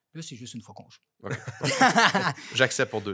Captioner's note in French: rires